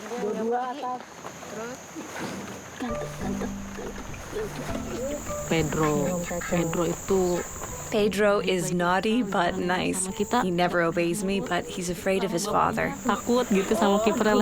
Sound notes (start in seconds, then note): 2.9 playful instrumental; 5.4 speaks foreign language